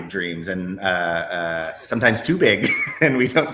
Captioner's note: laughs